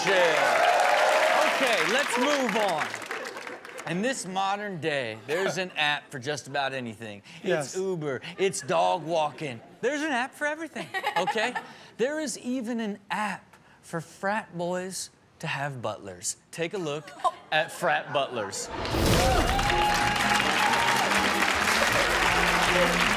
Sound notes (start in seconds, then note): 0.0 audience cheering and clapping; 10.9 Chanel laughs; 18.7 audience cheering and clapping